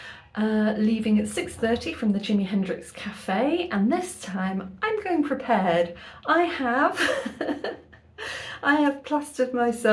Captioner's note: laughing